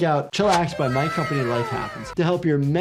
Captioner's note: small Voice